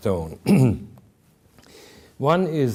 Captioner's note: clears throat